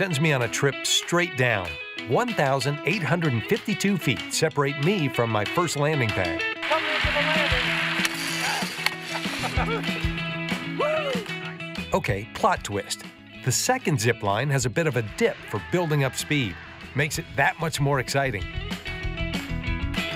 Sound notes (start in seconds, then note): 9.3 zipping sounds